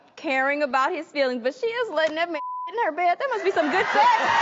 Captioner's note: beep